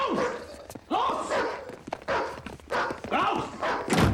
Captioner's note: speaking german; dog barking